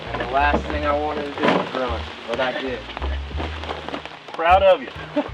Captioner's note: chuckling